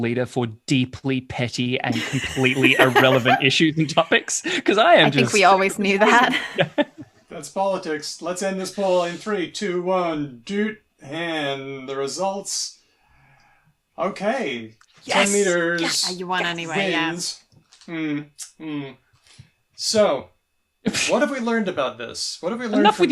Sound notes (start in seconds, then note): 5.4 laughs; 10.4 beeps